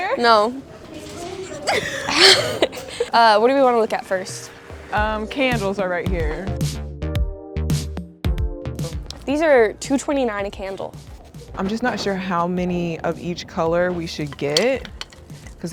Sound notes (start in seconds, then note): 1.4 both laugh; 6.9 upbeat music